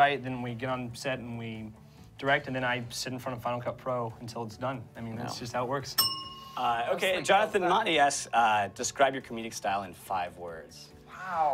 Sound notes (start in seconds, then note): 6.0 bell dings